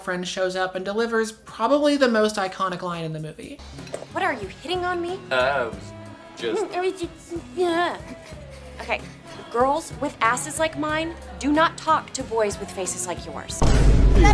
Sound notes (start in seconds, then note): 8.8 mimicking derisively; 8.9 sounds of annoyance; 13.6 Vine boom